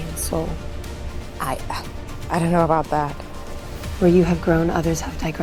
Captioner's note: sighing